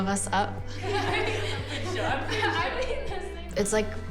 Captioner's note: laughter